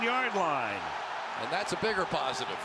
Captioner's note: cheering